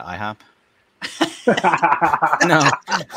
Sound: everyone laughing

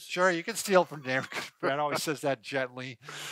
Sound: chuckles

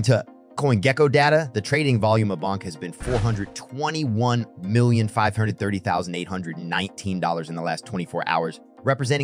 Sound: bonk

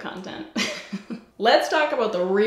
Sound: giggles

